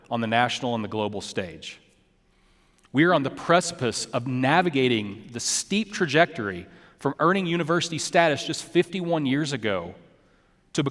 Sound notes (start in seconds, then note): none